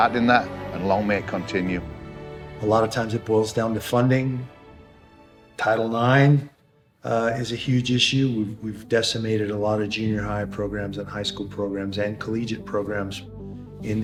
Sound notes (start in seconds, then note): none